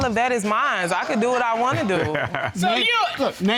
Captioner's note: laughs